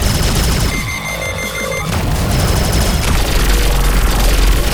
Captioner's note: alarm beeping; energetic music continues